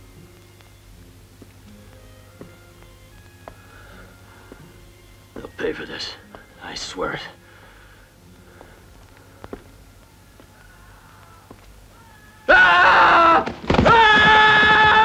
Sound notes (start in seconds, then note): 11.9 screaming